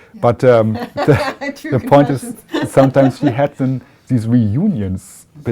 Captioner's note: laughter